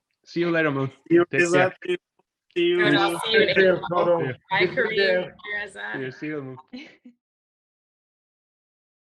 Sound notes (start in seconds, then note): 2.6 chattering